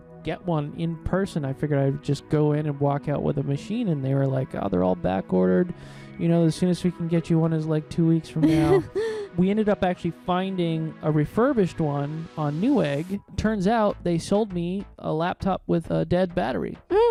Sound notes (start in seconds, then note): 8.4 laughing